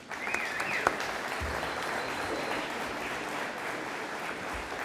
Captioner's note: audience applauding